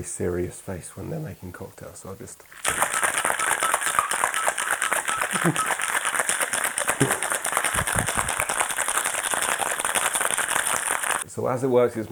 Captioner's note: giggles